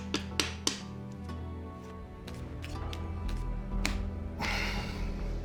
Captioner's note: tapping, shuffling sounds; sighs